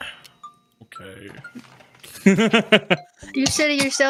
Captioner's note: laughs